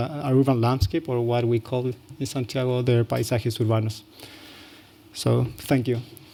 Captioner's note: non-english